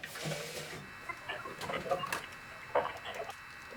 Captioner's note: beeps shift to rhythmic tones